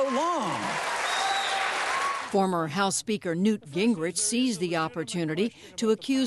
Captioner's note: cheering and applause